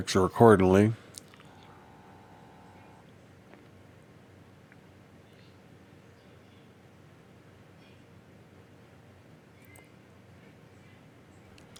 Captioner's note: silence